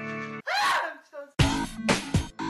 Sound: guilty Screams

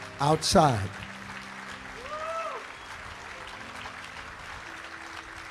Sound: congregation cheering

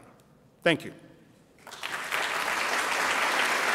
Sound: audience applauds

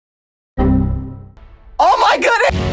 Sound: bsod sound

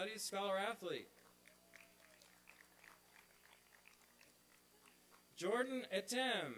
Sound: applause and cheering

